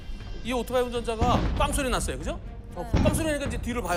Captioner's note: bang